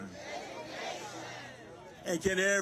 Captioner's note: crowd